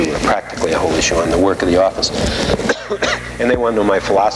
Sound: coughing

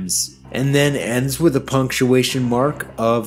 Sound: none

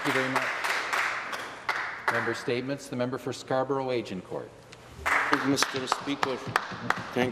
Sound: some Applause

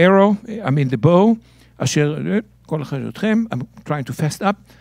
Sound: speaking in Hebrew

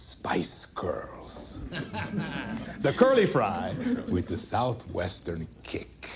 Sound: laughter

